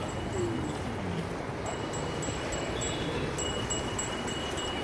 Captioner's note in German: Fahrradgeklingel